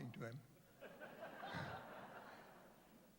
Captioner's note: laughter